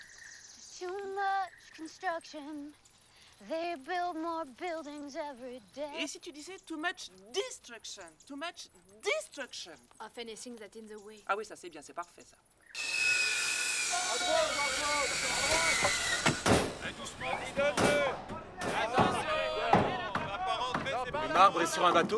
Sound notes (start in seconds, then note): 12.7 saw buzzing; 16.1 hammering; 16.1 yelling in Spanish